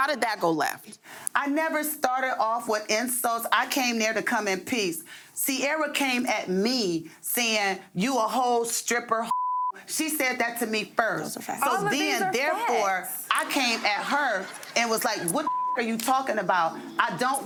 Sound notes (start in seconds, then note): 9.3 beep; 15.4 beep